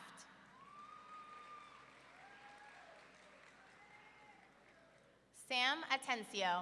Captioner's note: audience cheering and clapping